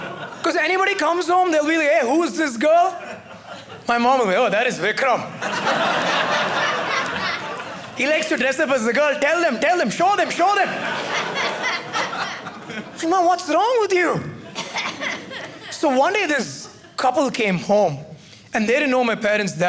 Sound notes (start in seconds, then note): 5.2 audience laughing; 10.0 audience laughing